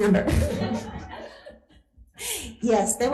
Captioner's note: laughing